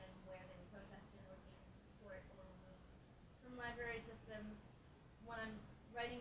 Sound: speaks faintly

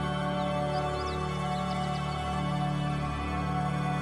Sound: birds chirping

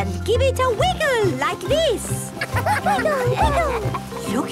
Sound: laughter

